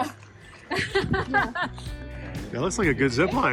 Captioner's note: laughing